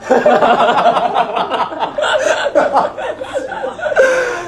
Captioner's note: gremlin laughter